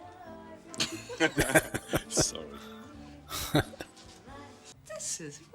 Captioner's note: laughing